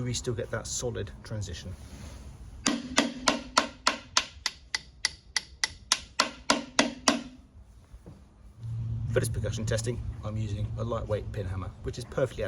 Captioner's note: tapping sounds